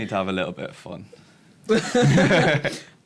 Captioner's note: laughter